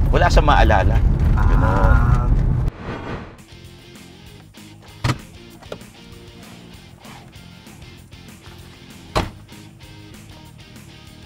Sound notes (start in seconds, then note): 5.0 door opens; 9.1 door thuds